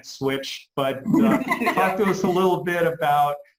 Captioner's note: laughs